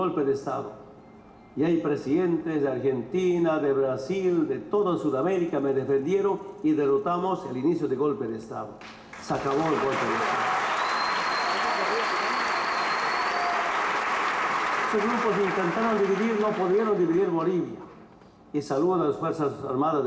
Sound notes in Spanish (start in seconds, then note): 11.0 Aplausos